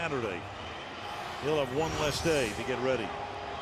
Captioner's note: crowd chanting defense